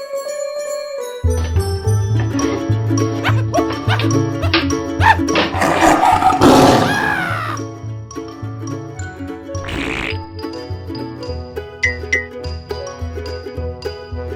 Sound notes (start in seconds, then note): 0.2 bag shifting; 5.4 growling; 5.6 man sceraming; 8.0 whimsical children's music